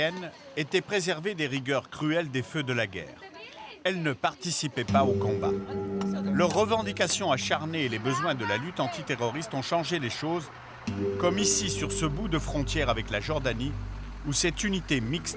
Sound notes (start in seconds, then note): 2.3 Hebrew spoken audio